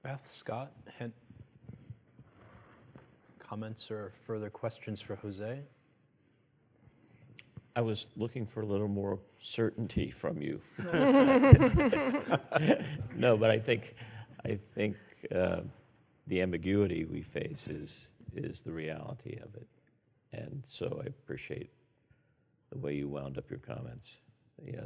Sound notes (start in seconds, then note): 10.8 laughs